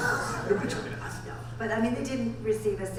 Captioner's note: laughing